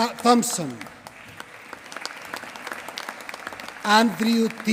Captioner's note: applause